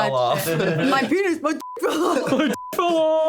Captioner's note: beep